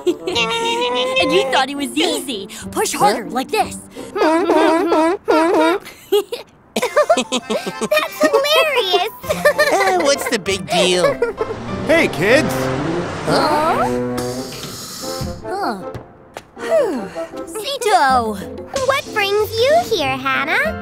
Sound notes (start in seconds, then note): 2.8 toots a song, humming along; 6.8 giggling